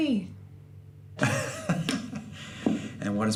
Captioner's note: hearty laugh